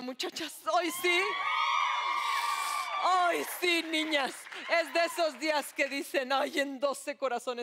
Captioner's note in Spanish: Gritos y exclamaciones